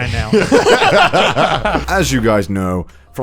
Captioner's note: laughing